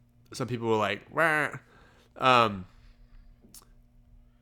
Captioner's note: grunts